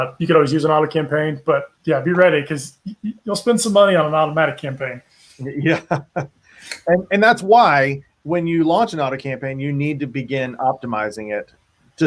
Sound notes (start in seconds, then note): 5.4 laughs